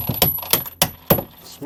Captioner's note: clunking